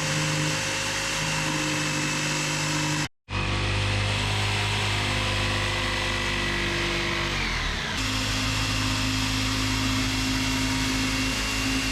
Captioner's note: drill whirring